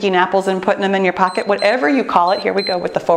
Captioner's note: timer beeps